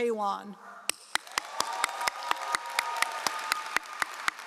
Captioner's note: all applauding